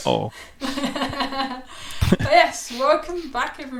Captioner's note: both laughing